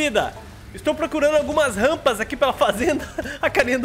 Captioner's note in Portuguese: risos